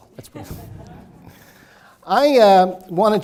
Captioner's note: laughing